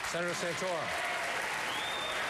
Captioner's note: applause